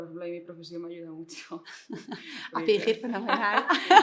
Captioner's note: giggles